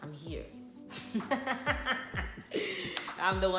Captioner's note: devious laughter